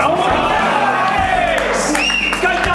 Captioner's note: team cheers; players yell, clap, and whistle